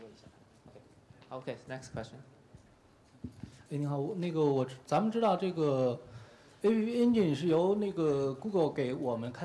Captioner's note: speaking in Chinese